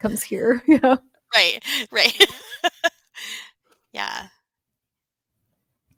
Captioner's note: laughing